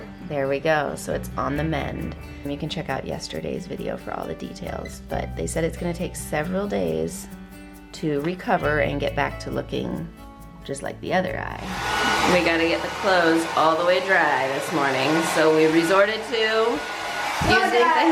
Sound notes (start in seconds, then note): 11.6 hairdryer whirs loudly